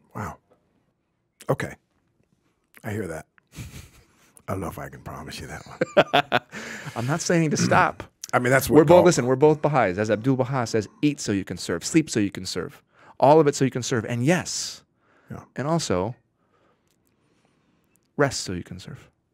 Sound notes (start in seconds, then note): 3.5 chuckling; 5.6 laughing